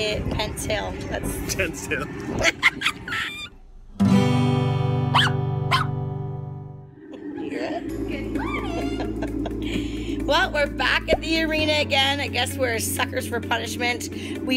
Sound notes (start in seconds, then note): 2.4 laughs; 3.9 guitar strum; 5.1 dog barks